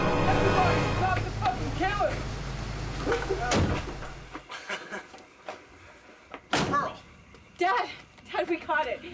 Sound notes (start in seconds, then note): 0.0 men cheering; 3.4 door slams; 5.9 chuckles